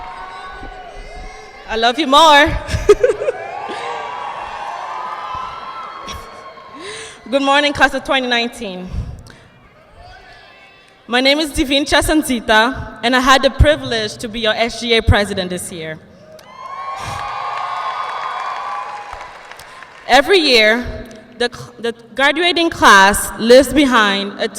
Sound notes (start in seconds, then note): 2.6 laughs; 3.3 students cheering and applauding; 6.9 laughs; 16.4 audience cheering and applauding